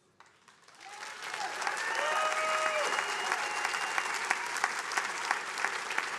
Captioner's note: attendees cheering and applauding